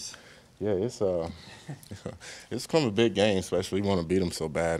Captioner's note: chuckles